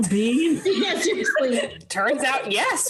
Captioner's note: laughing